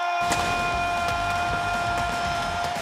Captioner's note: crowd cheering